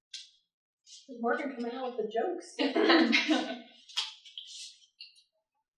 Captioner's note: chuckles